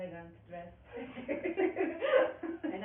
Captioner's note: laughing